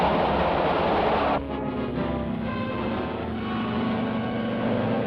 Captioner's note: train rattles; engine hums